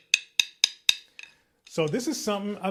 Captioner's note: sticks tapping